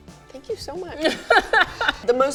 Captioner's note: laughs